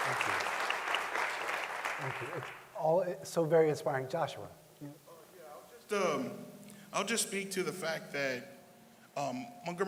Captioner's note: applause